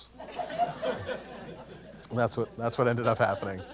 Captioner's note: laugh